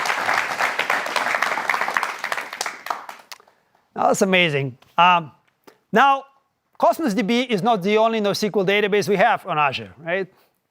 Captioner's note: applause